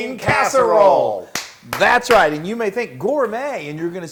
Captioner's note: applause